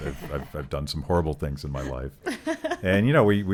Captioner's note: laughing